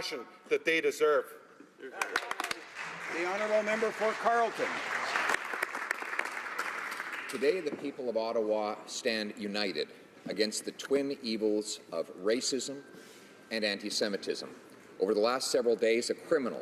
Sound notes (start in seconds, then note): 5.3 some Applause